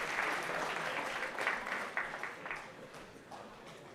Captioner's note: applause